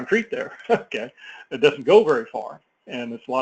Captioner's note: laugh